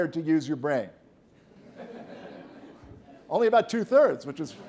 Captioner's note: laughter